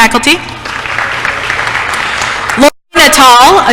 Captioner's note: applause